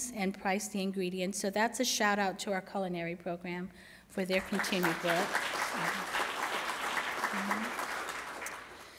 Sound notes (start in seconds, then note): 4.2 applause